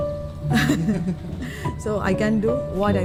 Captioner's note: chuckles